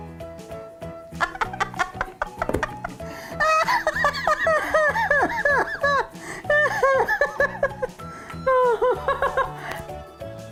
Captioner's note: laughing